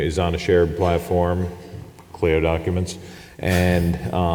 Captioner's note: chuckles